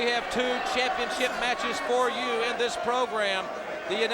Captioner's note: crowd chatter